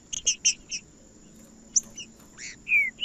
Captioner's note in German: trinca ferro cantando